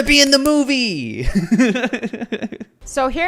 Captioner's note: laughs